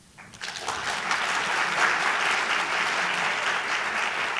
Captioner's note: audience applauding